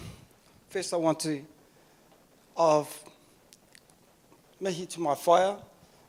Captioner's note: speaking in foreign language